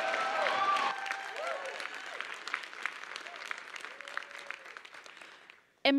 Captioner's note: applause